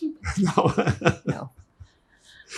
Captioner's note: laughing